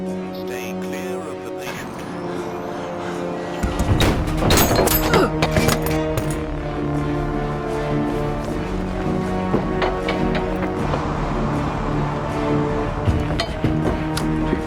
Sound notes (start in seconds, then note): 3.5 guns firing; 4.8 woman groans; 6.6 dramatic music